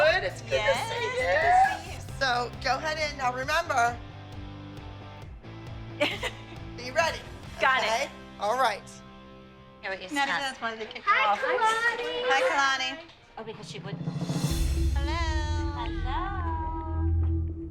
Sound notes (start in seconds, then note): 6.0 laughs